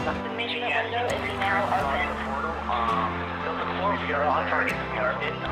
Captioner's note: radio chatter